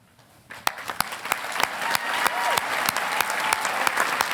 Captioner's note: audience applauding